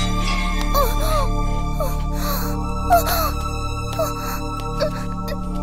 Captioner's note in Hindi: कराहना